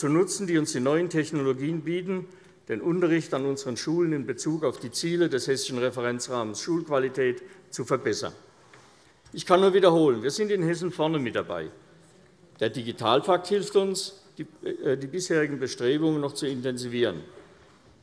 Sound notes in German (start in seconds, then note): none